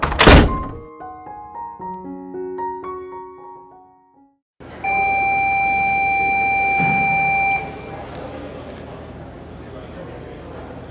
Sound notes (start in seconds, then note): 0.0 door banging; 4.6 school alarm sounding